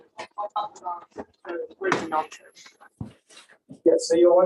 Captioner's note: crowd murmurs